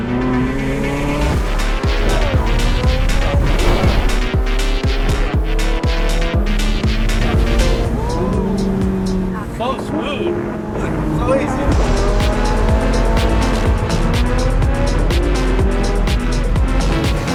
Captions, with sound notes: (car engine revving) (upbeat music) Whoo! So smooth. - So easy. (car engine revving) (upbeat music)